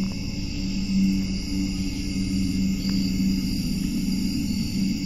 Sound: crickets chirping

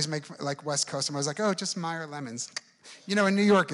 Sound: clicks tongue

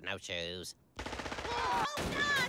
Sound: gunfire

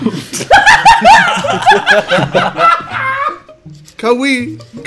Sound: students laughs

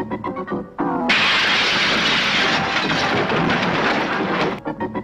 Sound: crashing and clattering

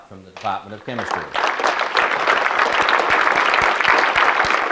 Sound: audience clapping

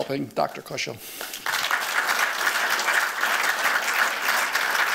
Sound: applause

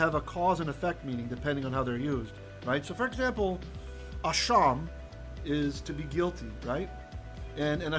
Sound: hebrew

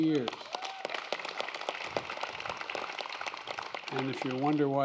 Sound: applause

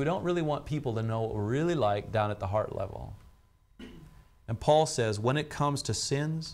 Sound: clears throat

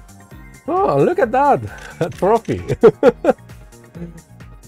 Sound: laughs

